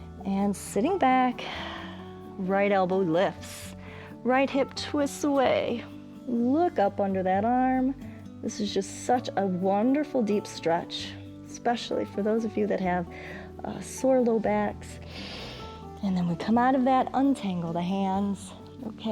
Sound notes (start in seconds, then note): 1.4 exhales; 15.0 inhales